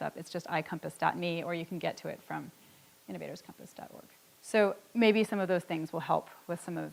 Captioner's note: none